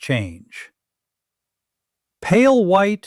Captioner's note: pause